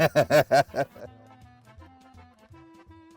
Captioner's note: laughs